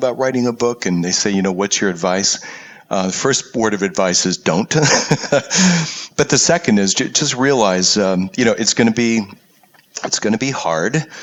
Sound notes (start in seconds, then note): 4.7 laugh